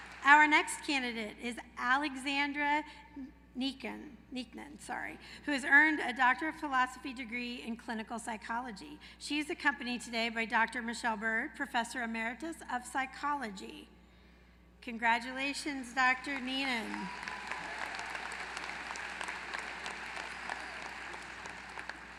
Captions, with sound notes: Our next candidate is Alexandra Neenan, who has earned a Doctor of Philosophy degree in clinical psychology. She is accompanied today by Dr. Michelle Byrd, professor emeritus of psychology. Congratulations, Dr. Neenan. [APPLAUSE]